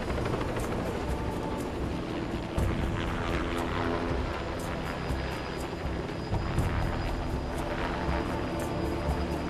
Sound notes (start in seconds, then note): 2.0 helicopter engine buzzes